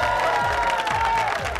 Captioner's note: cheering